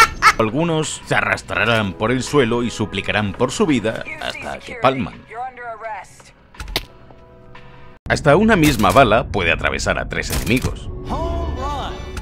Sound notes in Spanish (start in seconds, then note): 6.5 Disparo